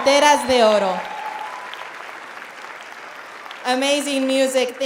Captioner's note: applauding